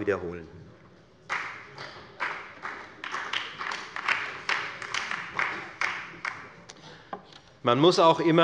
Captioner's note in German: Beifall bei der FDP und bei Abgeordneten der LINKEN